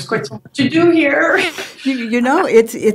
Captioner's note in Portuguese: risos